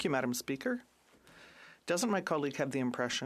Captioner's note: speaking French